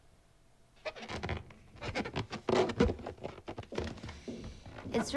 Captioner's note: balloon squeaks